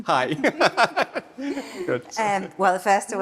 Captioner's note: both laughing